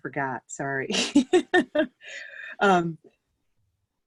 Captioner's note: laughs